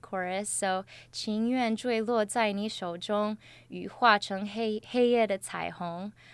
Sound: speaks in Chinese with pinyin

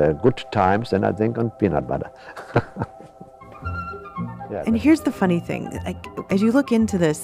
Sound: laughs

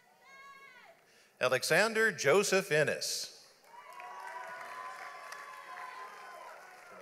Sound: audience applauds

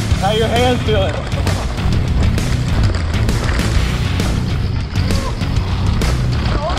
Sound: laughs

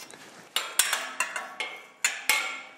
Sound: clattering

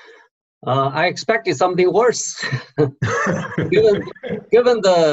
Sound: laughing

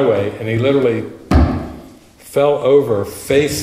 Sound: sound of hand hitting microphone

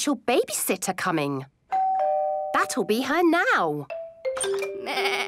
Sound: doorbell rings

